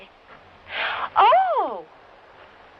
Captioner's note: gasps